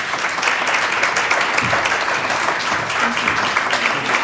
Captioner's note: applause